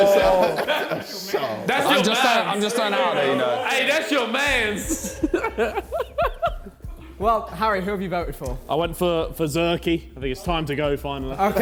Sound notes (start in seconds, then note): 0.0 men jeering; 0.0 JJ laughing; 4.5 men laughing